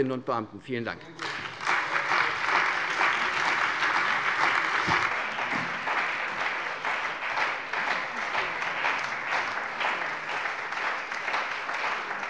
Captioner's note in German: Anhaltender Beifall bei der CDU und dem BÜNDNIS 90/DIE GRÜNEN